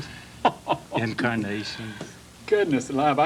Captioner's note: laughs